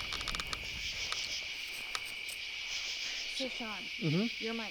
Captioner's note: insects chirping